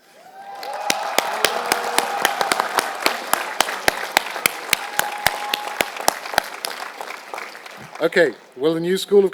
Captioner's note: applause